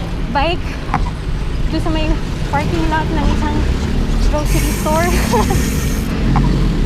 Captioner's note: laughs